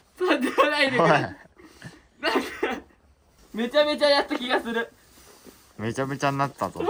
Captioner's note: laughs